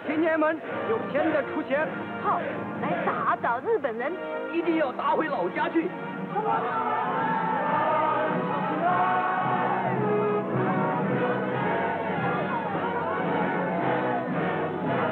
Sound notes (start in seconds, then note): 0.1 speaking chinese; 7.7 shouting and singing